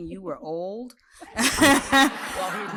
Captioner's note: laughter